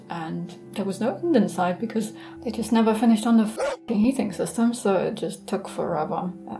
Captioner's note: barking